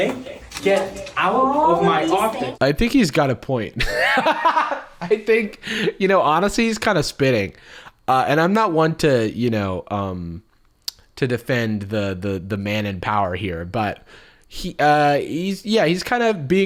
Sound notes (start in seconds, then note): 3.8 laughs